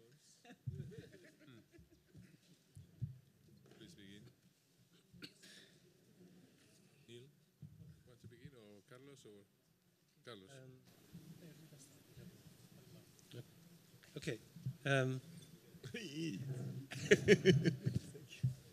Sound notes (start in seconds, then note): 0.4 laughter; 10.7 chatter; 16.9 laughter